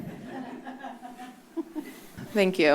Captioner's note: laughing